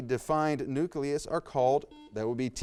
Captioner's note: buzzer beeps